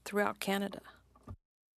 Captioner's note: speaking French